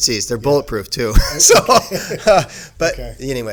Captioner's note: laughing